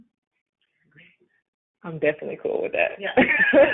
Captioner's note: laughter